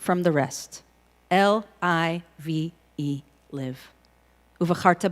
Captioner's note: in Hebrew